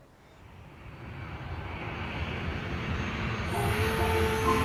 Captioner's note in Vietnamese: tiếng máy bay